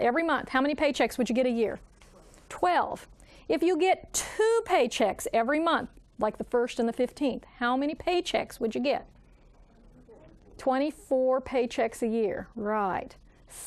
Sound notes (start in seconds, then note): 10.0 student speaking faintly